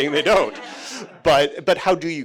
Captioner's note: everyone chuckling